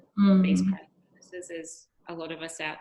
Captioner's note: microphone cutting out